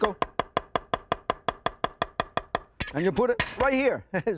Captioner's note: knife chopping